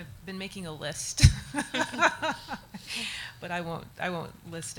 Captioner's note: audience laughs